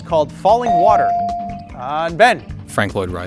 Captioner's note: bell sounding